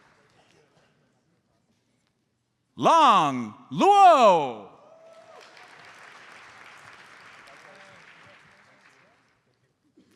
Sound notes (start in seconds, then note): 5.4 audience applauds